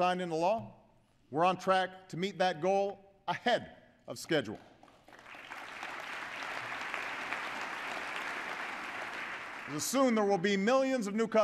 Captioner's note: applause